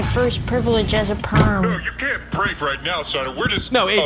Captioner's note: opens fridge